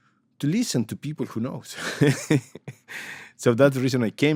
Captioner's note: laughs